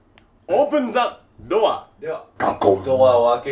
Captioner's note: sound of opening door